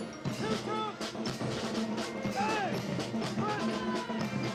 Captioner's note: Commandants de troupe crient des ordres